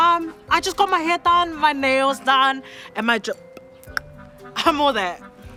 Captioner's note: clicks tongue